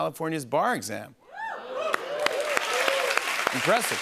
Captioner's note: cheers and applause